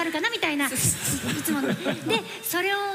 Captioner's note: struggling to speak